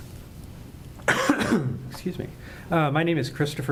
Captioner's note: coughs